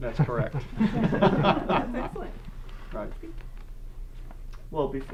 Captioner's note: group laughter